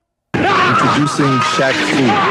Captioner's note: coach maniacally laughs again